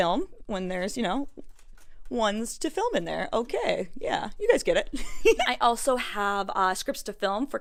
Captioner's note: cute giggles